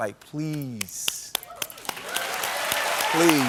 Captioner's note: applause